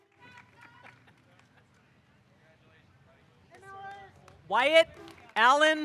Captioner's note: woman yelling excitedly